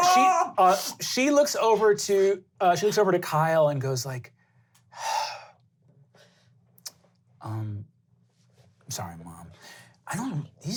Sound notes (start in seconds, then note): 5.0 sighing